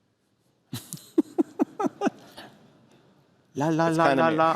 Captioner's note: laughter